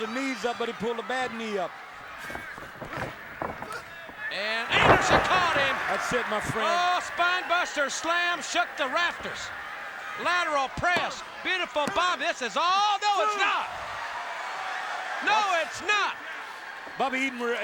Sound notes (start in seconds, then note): 6.1 crowd cheering; 13.1 crowd chatter